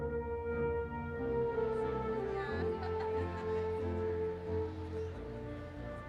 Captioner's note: audience chattering and laughing